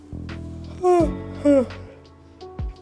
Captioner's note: yawning